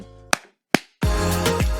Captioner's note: claps